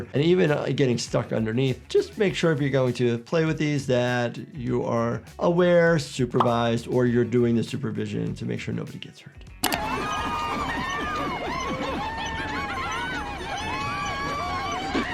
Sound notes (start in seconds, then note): 9.6 animals laughing